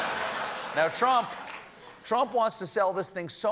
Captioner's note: laughter